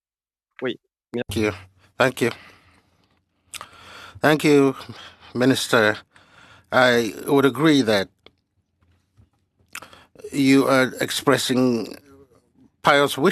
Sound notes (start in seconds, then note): 7.5 speaking french